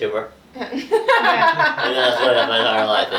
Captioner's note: laughs